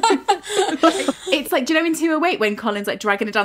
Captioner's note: laughing